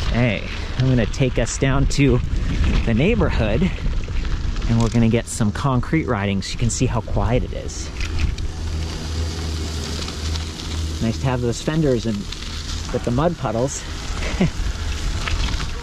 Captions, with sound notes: Okay, I'm gonna take us down to the neighborhood and we're gonna get some concrete riding so you can see how quiet it is. (wheels rumbling) Nice to have those fenders with the mud puddles. (laughs)